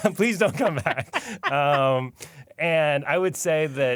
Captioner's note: laughter